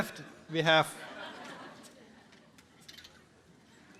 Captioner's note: laughter